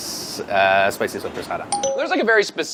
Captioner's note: dinging